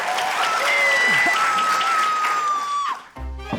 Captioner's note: cheering, applause; woman screams; curious music